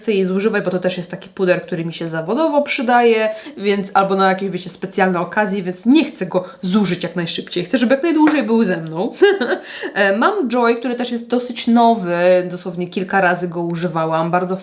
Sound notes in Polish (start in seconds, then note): 9.1 śmiech